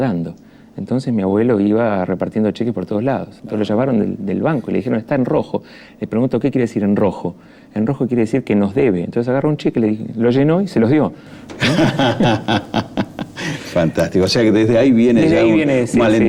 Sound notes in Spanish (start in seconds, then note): 11.5 risas